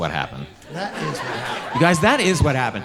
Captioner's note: audience laughing